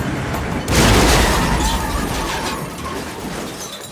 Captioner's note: tires screech